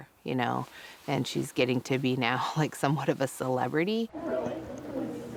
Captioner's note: group chats